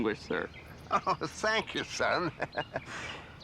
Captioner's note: laughs